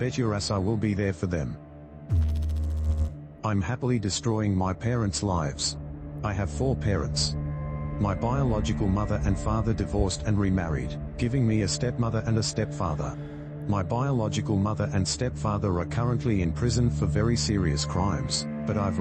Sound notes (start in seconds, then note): 2.1 electrical noise